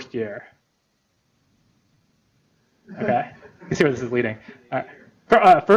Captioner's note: laughter